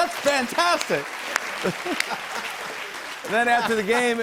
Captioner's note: applause; laughter